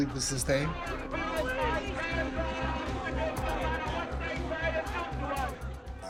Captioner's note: overlapping shouting